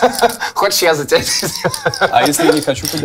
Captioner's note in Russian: смеется